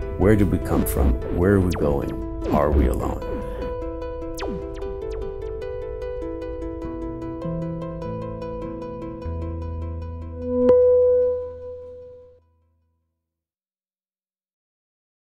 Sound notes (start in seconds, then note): 3.9 mysterious music; 10.4 tone chimes